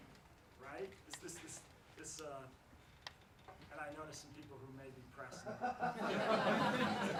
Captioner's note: laughs